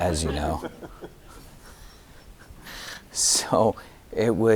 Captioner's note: audience laughing; laughing